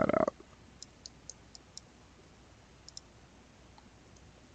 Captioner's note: mouse clicking